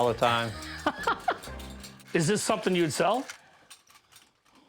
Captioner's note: laughs